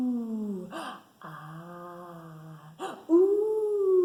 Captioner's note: gasps